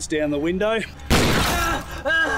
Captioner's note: gunshot